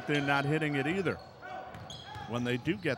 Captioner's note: ball pounding; yelling